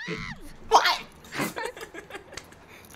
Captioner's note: laughing